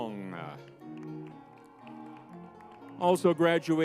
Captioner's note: crowd cheering